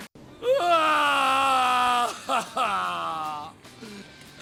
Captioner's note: Trevor screams